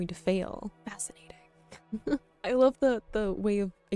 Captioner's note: laughing